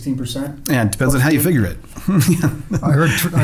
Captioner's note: laughs